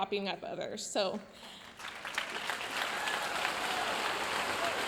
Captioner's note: audience applauding